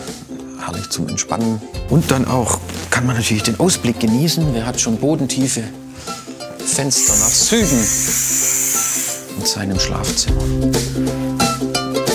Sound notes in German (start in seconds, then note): 6.7 Zischen